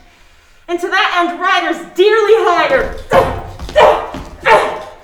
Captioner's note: grunting